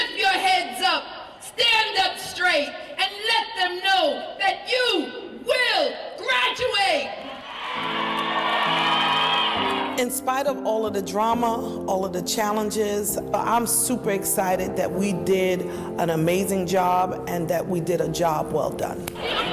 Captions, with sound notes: - Lift your heads up, stand up straight and let them know that you will graduate. (audience cheering and clapping) - In spite of all of the drama, all of the challenges. I'm super excited that we did an amazing job and that we did a job well done.